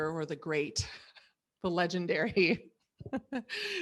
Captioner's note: laughs